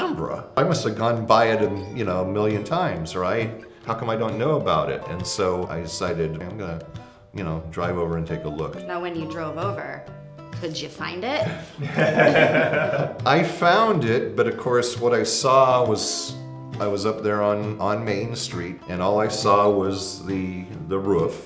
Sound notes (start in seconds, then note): 11.4 chuckling